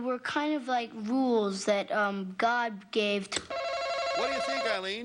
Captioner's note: buzzer buzzes